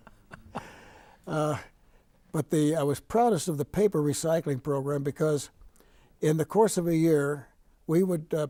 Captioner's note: laughing